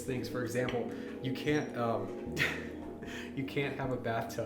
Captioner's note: chuckles